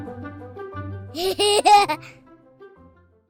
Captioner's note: laughter